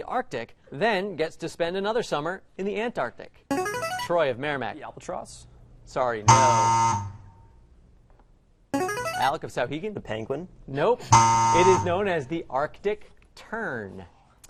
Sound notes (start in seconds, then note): 2.8 player buzzer; 6.2 error buzzer; 11.0 error buzzer